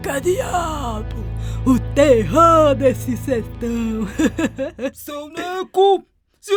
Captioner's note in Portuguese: Risos